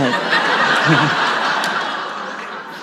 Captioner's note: audience laughs